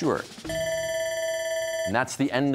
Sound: bell ringing

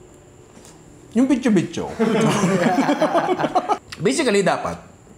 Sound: laughter

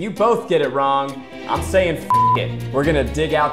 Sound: beep

